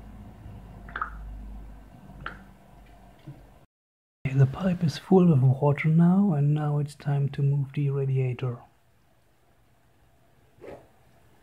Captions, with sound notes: [*water bubbles*] Okay, the pipe is full with water now and now it's time to move the radiator.